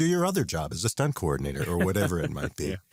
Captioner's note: laughs